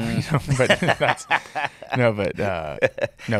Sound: laughing

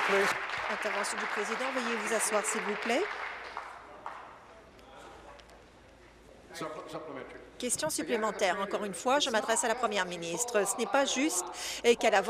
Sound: applause

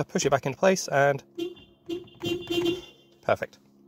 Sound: beep beep

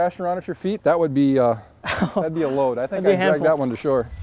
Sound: laughs

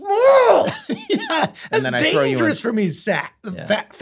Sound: laughs

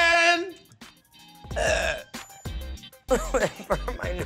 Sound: coughs; burps

